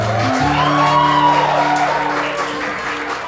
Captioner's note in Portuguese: aplausos